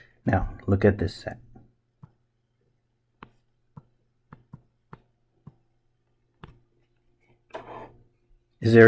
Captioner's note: writing Sounds